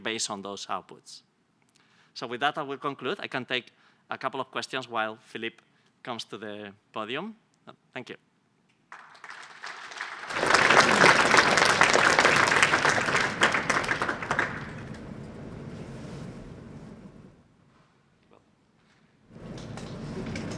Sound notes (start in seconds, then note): 8.8 applause